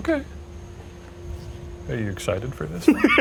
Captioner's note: insects chittering; laughs